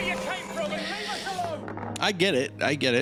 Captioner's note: heavy inhale